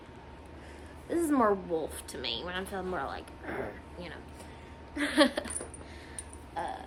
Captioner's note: growls; chuckles; mumbles